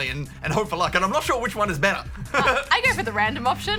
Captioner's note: laughs